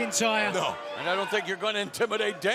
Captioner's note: fans chanting